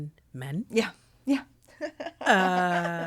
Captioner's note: laughing